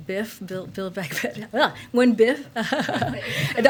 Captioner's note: laughs